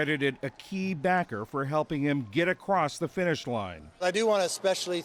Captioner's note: applause